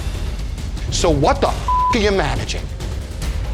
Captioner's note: beep